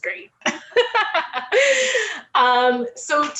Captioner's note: laughs